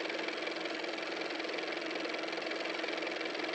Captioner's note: car motor